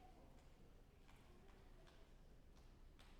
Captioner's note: none